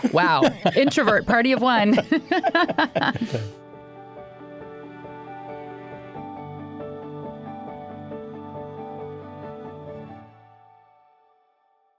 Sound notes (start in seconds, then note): 2.3 laughs; 4.4 gentle bright music